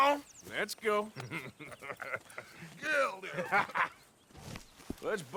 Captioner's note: Dutch and Bill laughs; mocking